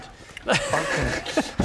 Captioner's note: dutiful sigh